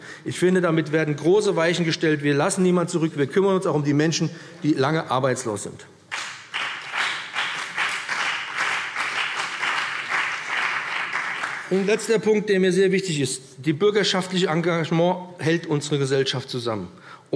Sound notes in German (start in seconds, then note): 6.1 Beifall BÜNDNIS 90/DIE GRÜNEN und vereinzelt CDU